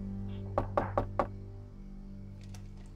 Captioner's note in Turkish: Kapı tıklaması